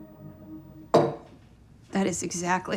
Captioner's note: cup hits table